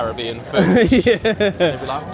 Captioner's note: laughs